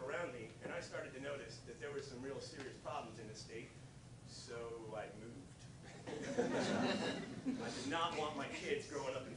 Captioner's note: laughter